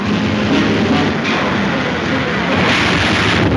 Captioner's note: crashing; somber music